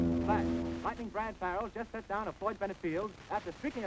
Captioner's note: man on radio